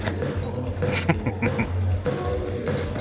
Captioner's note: chuckling